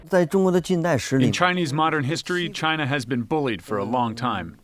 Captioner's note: through translator